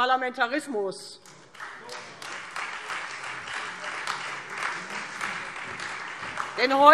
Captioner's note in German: Beifall Freie Demokraten und vereinzelt SPD